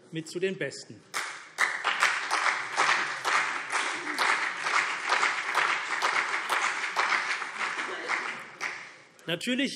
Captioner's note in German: Beifall CDU und vereinzelt BÜNDNIS 90/DIE GRÜNEN